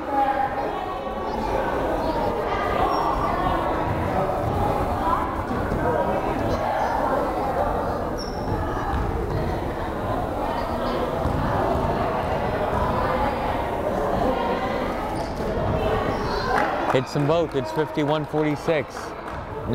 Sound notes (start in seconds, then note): 1.1 crowd chattering